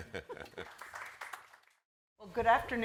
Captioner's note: audience applauding